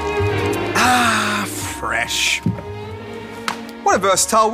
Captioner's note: sighs